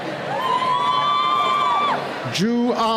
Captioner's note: cheering